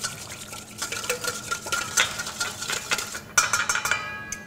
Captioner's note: whisking sounds